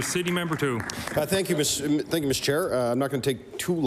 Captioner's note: applause